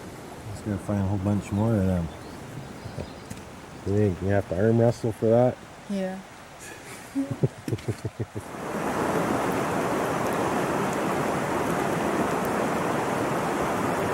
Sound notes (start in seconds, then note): 6.8 laughter; 9.7 rushing water tap tap tap